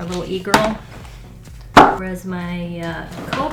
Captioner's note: markers thud